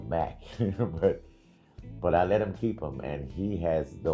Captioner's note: chuckling